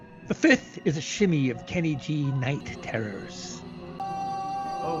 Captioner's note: awwwww